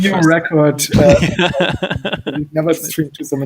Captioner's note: laughs